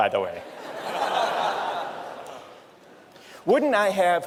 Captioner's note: laughter